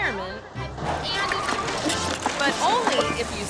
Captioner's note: bike crashing